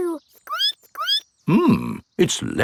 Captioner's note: squeaks